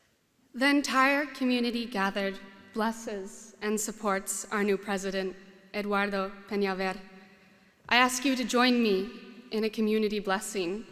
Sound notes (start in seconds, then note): none